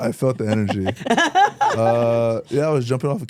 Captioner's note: laughs